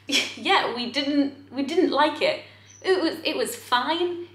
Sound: laughs

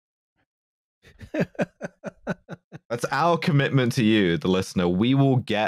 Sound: laughs

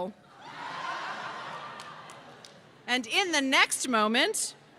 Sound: laughter

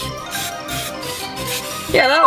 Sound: fast music; spraying

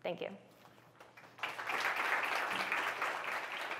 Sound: applause

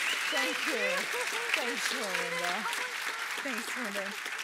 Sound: applause

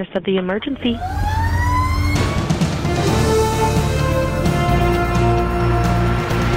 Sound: siren blaring; inspirational music

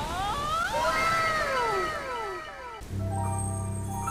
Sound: fantastical music; echoing

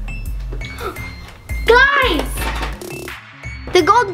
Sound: air whooshes; gasps

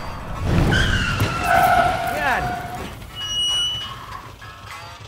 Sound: brakes. Drink spill. Cursing

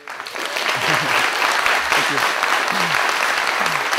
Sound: applause

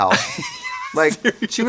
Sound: laughing

